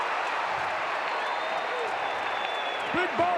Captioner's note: audience cheering